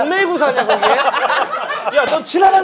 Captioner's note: laughing